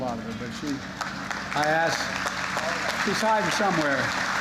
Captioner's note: applause